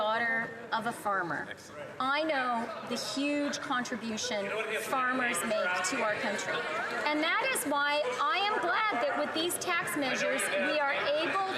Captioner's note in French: voix de l'interprète